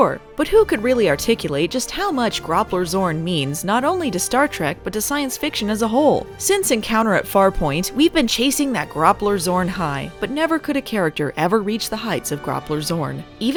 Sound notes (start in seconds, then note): none